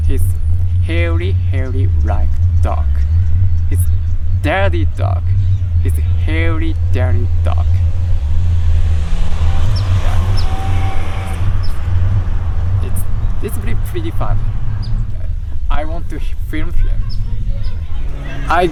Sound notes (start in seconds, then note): 8.2 air whooshing; 8.2 vehicles roaring